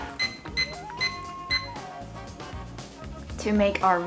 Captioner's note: timer beeping